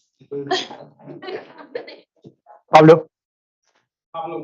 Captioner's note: laughing